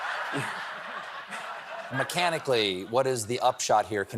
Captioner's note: laughter